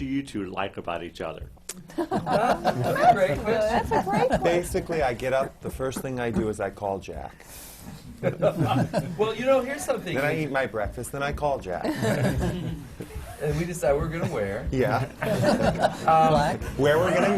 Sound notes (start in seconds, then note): 1.9 laughter; 8.2 laughs; 11.8 laughter; 14.8 laughter